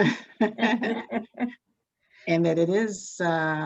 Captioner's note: both laugh